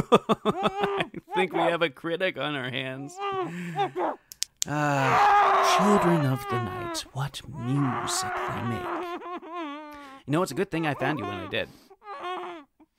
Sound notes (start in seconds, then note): 4.8 muffled screaming; 12.0 muffled crying